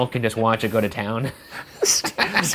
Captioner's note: laugh loudly